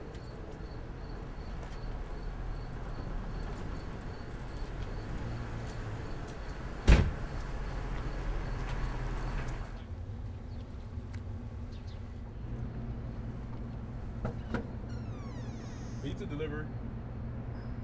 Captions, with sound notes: (knocking on door) - Pizza delivery.